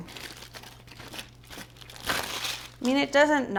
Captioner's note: foil crackling sounds